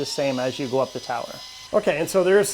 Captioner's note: tool whirring